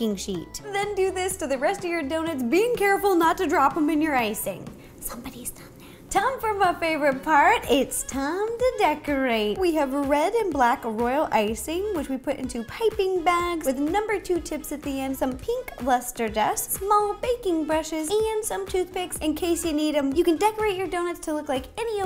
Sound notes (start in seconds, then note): 4.8 whisper